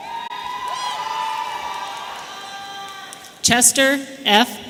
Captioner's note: audience cheering